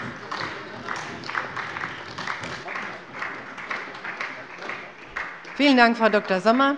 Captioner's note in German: Beifall bei der SPD